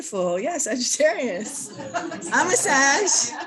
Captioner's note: laughter